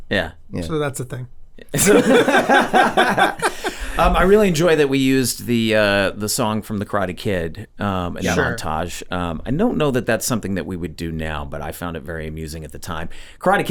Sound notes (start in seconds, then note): 1.7 all laughing